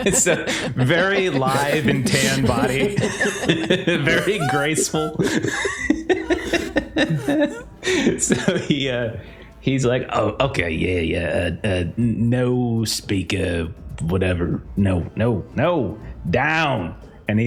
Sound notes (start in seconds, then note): 5.3 more laughter